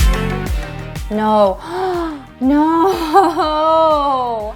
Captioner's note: upbeat music; gasps